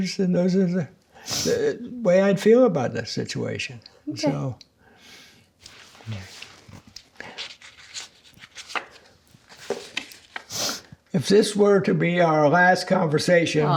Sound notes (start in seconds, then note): 7.6 cards rustling